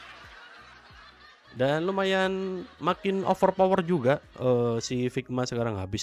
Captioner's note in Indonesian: tertawa